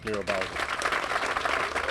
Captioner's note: cheers and applause